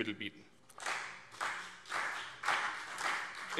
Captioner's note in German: Beifall CDU und BÜNDNIS 90/DIE GRÜNEN